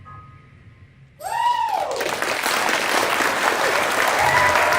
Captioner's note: applause